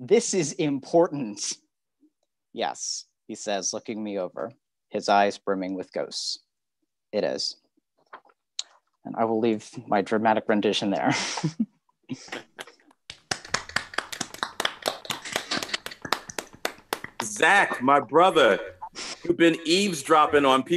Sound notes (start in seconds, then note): 13.1 applause